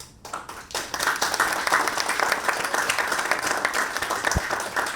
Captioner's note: audience applauds